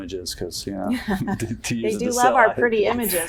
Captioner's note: laughter